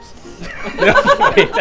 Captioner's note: laughs